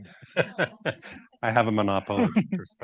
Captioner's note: laughs